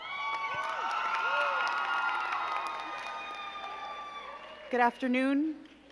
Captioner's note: crowd cheering and clapping